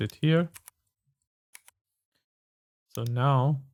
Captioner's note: typing